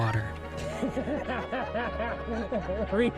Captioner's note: laughs